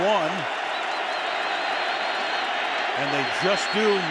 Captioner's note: whistle